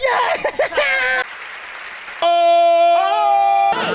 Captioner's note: audience clapping